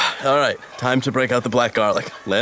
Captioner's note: deep breath in, exhales